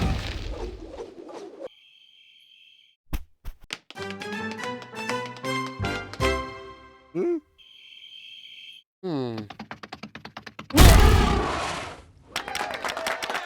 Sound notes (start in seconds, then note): 3.6 tapping feet; 7.6 crickets chirping; 10.6 growl, stomp; 12.3 cheers and applause